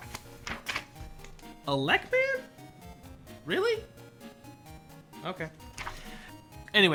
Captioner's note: page flip